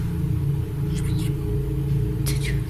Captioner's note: faint whispering